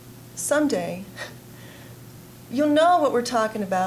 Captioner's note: chuckling